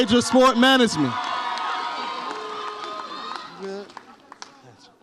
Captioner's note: audience applauds and cheers